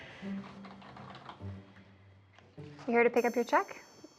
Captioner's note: keyboard keys clacking